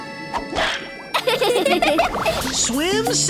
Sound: laughing

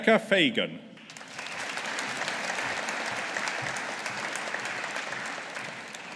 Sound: audience applauding

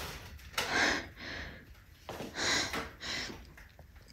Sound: blinds whirring; person breathing

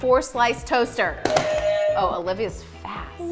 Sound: buzzers ring

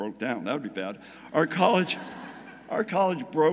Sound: audience laughing

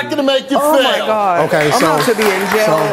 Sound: audience applause

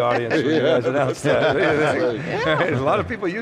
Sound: laughing

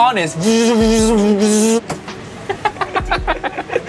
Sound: makes buzzing sounds; laughing

